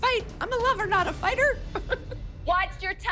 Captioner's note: chuckles